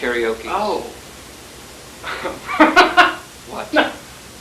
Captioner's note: laughs